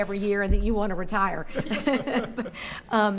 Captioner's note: laughing